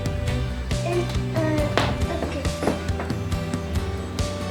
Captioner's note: babbling